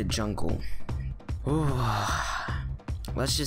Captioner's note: dramatic exhale